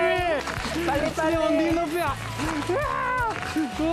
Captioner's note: applause